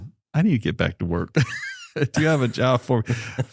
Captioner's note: laughter